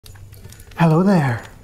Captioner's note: crackling fire